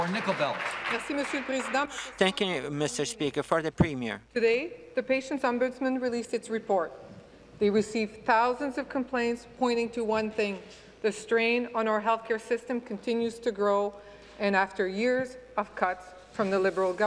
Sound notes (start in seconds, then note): 0.0 applause; 4.4 speaking French